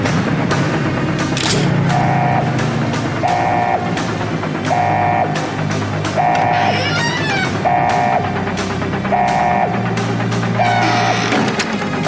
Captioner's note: alarm blares